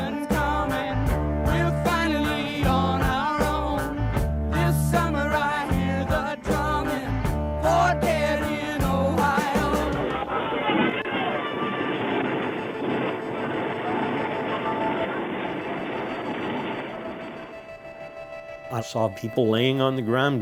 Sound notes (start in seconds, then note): 9.3 sounds of rifle fire & screaming